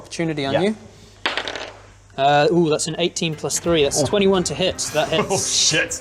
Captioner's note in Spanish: tirada de dados